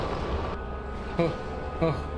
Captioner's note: rolling noises